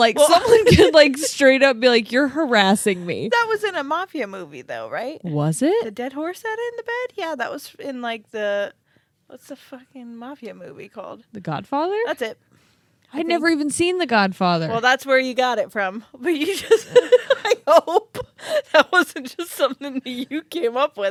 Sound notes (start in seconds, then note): 16.4 laughs